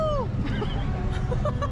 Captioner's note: she’s laughing